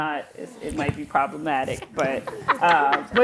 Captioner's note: laughter